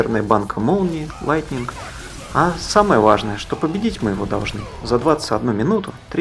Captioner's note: Lightning